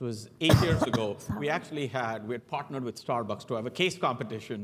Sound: cough

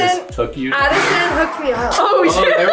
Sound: leaf blower whooshing; laughing

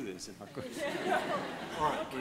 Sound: laughter

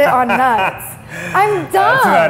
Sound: laughing

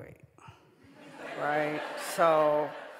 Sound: audience laughing

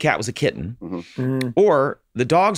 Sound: Rob and Charlie mutter agreement

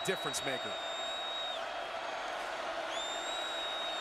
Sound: crowd cheering

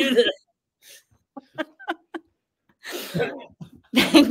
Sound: laughs

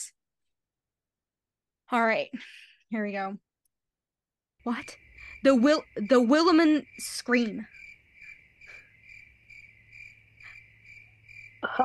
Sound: cricket nosies

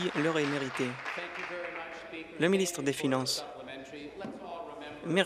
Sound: applause

